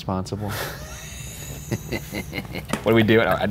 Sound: laughing

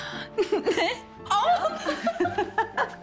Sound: laughter

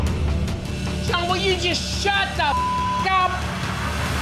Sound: beep

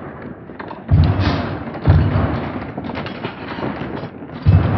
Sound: slow-mo MMX sounds continues

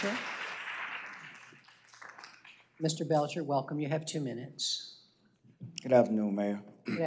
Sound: applause

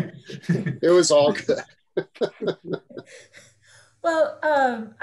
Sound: laughing

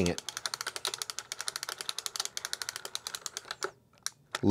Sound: handle clicking

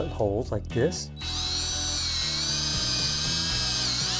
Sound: drilling sound

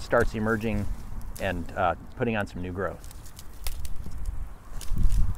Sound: crunching plant sounds

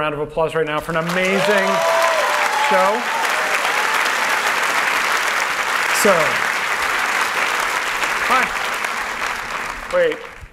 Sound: applause and cheers

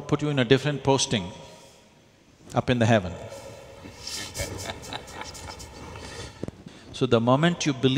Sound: laughs

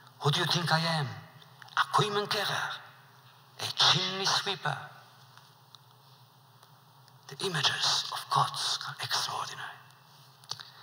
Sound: Yiddish

